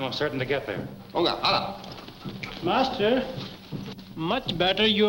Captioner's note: speaking in foreign language